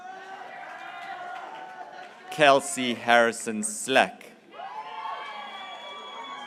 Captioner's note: graduates cheering